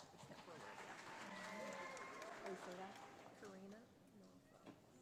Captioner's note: audience applauding